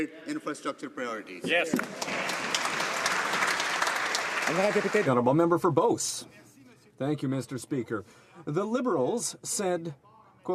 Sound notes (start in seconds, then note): 4.6 some Applause